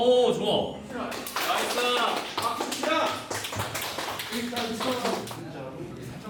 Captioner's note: monitoring ends with a round of applause